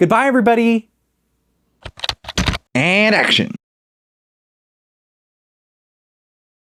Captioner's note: typing